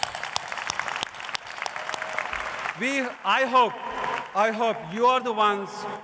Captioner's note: cheers and applause